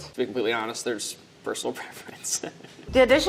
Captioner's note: laughs